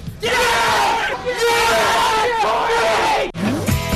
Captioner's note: cheering